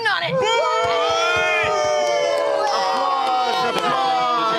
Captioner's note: cheering